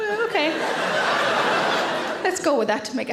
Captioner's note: audience laughs